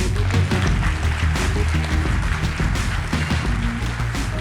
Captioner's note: audience applauding